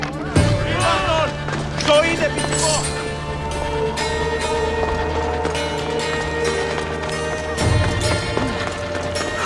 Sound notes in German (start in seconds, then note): 0.0 stöhnen; 0.7 schreien